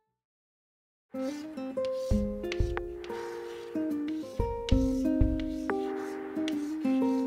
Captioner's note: chalk noises+music